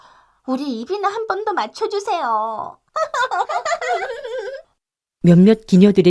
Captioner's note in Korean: 웃음